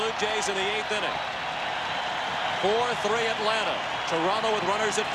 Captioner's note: cheering and Applause